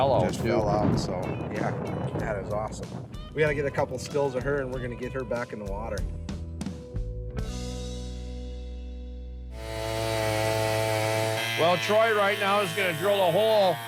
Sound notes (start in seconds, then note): 9.5 drilling noise